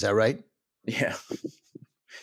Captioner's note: chuckles